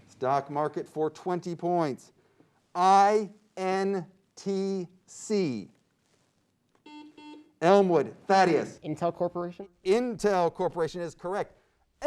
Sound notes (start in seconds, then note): 6.8 beep